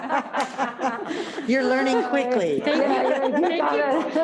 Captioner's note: laughing